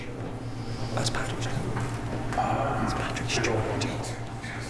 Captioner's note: whispering